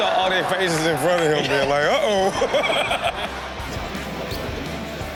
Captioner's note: laughs; upbeat music continues